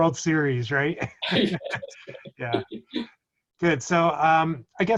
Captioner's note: laughs